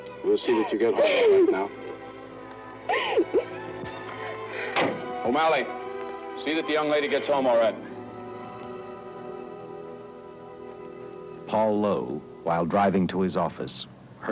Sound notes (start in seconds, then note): 2.8 sobbing; 4.7 car door shuts